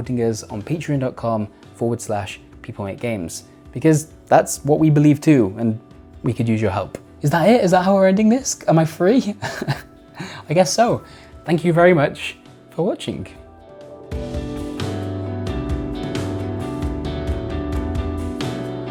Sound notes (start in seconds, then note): 9.4 laughs; 13.9 soft music